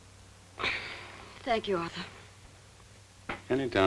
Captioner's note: sighs